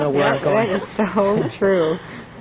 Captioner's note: laughter